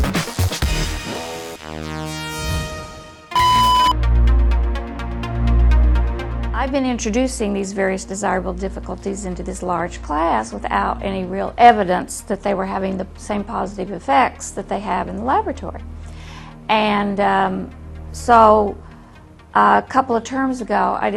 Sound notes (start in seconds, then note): 3.3 beep